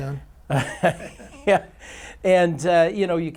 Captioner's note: chuckles